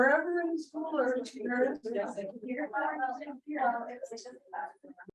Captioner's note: audience members talking at once